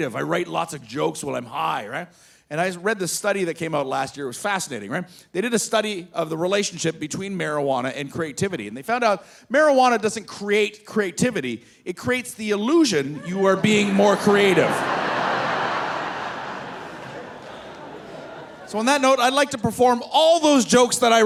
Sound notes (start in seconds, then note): 14.9 audience laughing